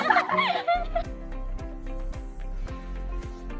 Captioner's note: people laugh; upbeat music